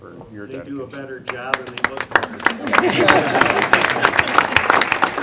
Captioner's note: applause